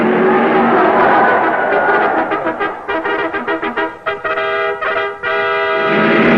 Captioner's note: crowd cheering